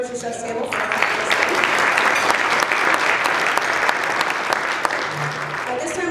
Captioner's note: applause